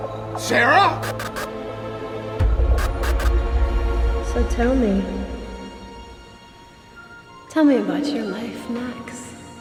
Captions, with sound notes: - Sarra! (lights buzzing) - So tell me. Tell me about your life, Max.